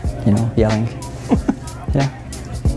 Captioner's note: giggle